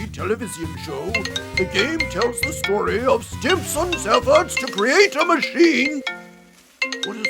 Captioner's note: phone ringing; ringing continues